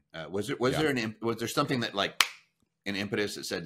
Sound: snaps finger

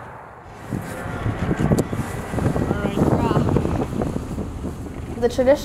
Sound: landfill sounds

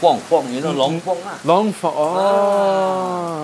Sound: Mandarin

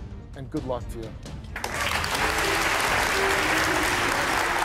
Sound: audience applauds

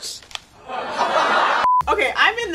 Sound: audience laughing

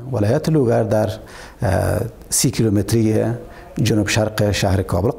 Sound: speaks in foreign language

